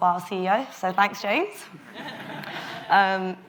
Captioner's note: audience laughs